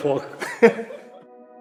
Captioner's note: laughter